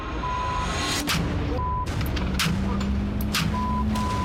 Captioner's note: gun firing